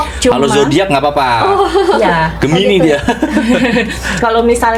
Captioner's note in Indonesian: tertawa